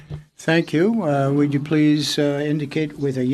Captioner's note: speaking French